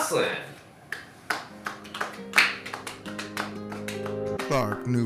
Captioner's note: clapping